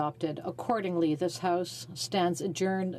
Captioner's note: speaking French